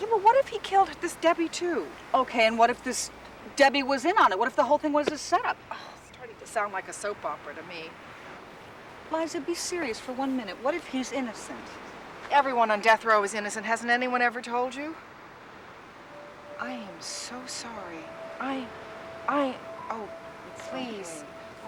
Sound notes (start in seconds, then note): 6.0 sighs